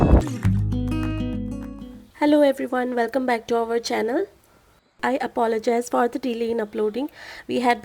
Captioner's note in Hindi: तालियां